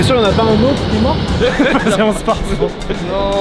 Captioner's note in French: rires